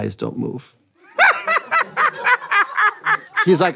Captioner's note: laughing